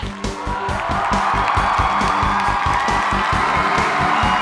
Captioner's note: students cheering